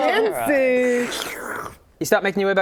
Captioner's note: slurp